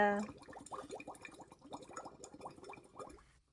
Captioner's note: water gurgles